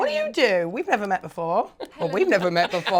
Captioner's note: all laughing